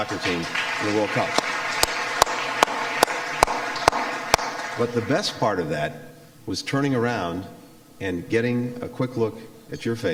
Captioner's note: applause